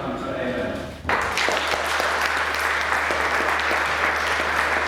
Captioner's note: clapping